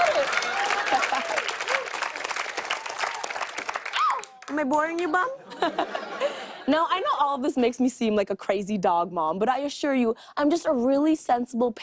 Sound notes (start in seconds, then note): 0.0 applause; 5.4 laughter